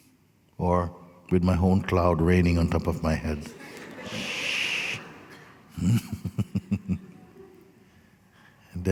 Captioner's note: laughter